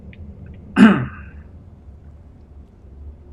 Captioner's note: coughs